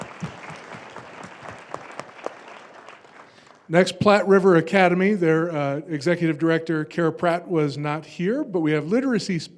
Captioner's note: applause